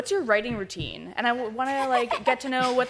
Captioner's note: laughs